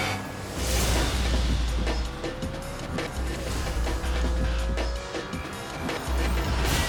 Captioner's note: dramatic music; intense music; motorcycle whizzing; dramatic beat